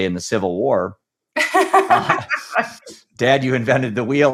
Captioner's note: both laughing